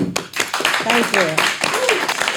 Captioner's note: audience applauding